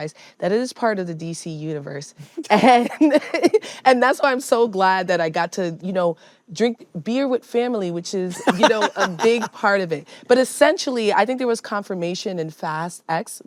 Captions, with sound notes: that it is part of the DC universe. And that's why I'm so glad that I got to, you know, drink beer with family, which is, you know, -a big part of it. -(LAUGHS) But essentially, I think there was confirmation in Fast X,